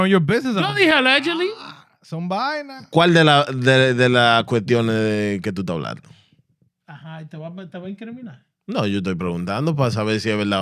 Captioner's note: speaking Spanish